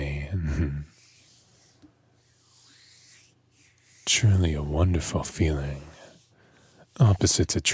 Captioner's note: hands noises